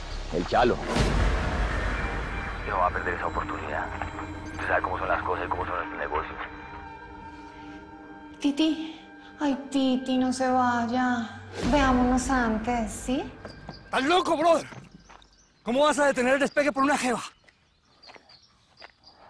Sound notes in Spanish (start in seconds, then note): none